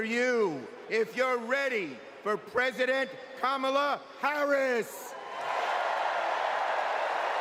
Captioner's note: cheers and applause